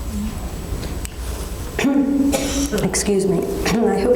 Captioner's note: coughs